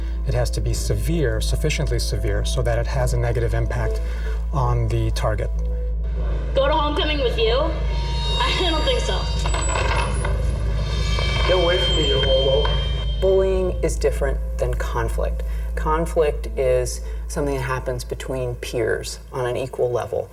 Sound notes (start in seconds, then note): 6.1 girl talking in PSA